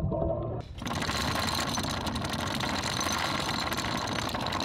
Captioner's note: chain rattling